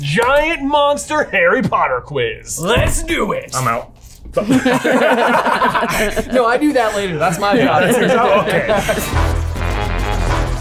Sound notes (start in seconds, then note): 4.3 all laughing